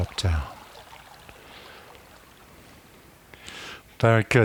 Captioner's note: silence